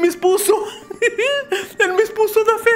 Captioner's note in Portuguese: risos